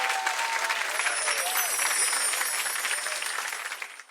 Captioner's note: chimes